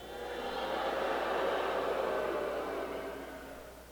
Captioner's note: crowd boos